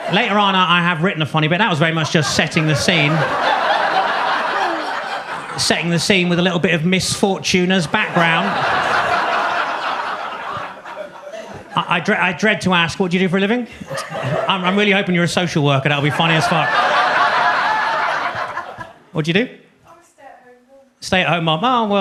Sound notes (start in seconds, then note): 3.2 audience laughs; 7.5 audience laughs